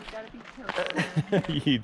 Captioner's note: laughs